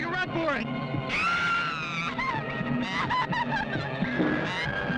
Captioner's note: screaming